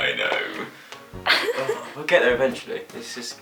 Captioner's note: laughs